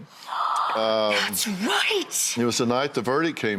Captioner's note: gasps